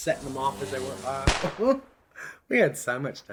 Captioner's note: chuckles